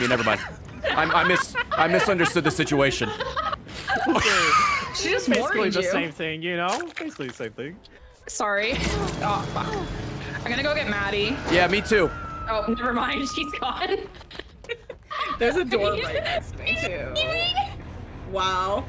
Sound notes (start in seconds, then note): 4.9 laughs